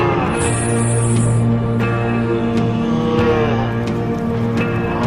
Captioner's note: animals lowing